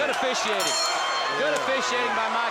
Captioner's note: bell dinging